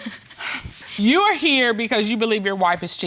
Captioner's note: laughs